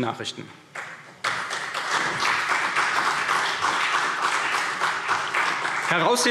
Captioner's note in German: Beifall CDU und BÜNDNIS 90/DIE GRÜNEN